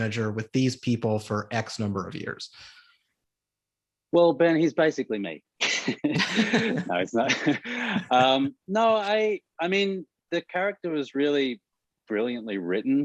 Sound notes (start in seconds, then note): 5.6 Ben and Murray chuckle